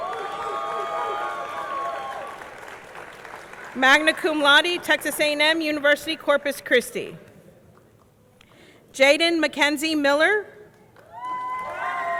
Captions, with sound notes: (audience cheering) (audience clapping) Magna Cum Laude, Texas A&M University Corpus Christi. Jaiden Mackenzie Miller.